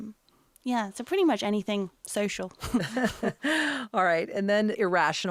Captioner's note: chuckles